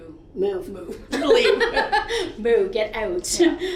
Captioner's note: laughs